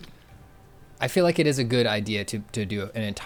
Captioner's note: pat